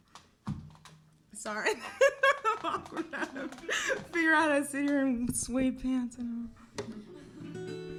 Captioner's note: laughs